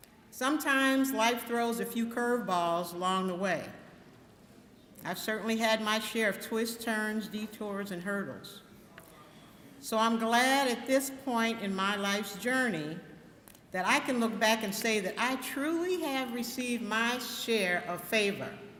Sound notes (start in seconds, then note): none